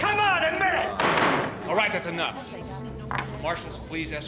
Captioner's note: gavel bangs